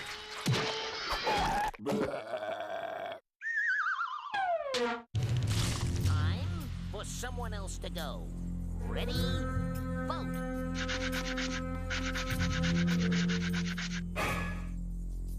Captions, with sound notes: [burping] TIME FOR SOMEONE ELSE TO GO. READY? VOTE.